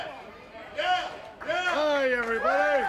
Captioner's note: audience cheering